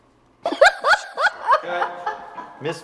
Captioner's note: woman laughs